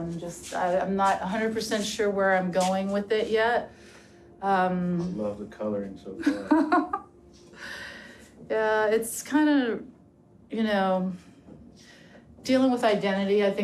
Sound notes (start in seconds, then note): 6.2 chuckles